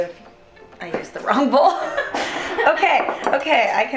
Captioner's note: laughter